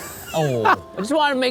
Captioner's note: laughs